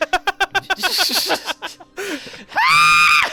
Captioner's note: both Laughing